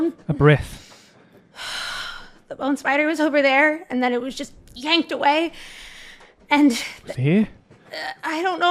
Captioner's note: takes a deep breath